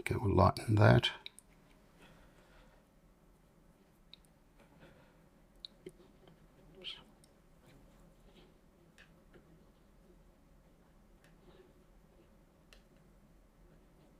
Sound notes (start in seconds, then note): 1.2 silence